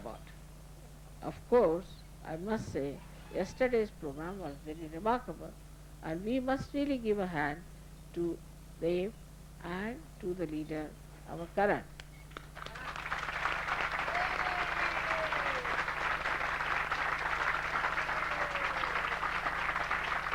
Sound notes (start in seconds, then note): 15.9 applause